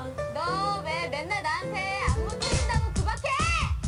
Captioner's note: speaking Korean